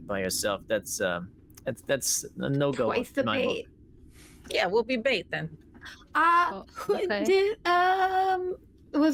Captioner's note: none